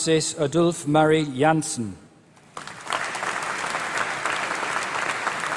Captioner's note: applause